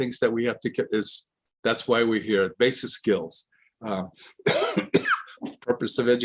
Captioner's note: coughs